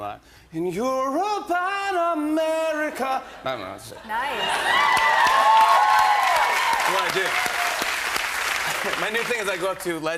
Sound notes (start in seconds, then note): 4.2 cheers and applause